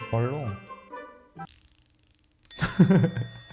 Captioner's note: squeezing